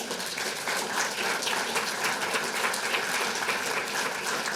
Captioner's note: applause